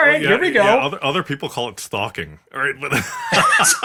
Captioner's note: laugh